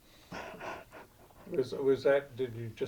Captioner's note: chuckling